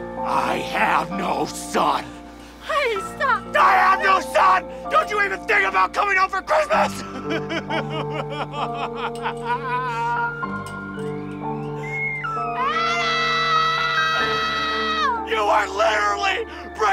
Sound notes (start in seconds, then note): 6.6 sobbing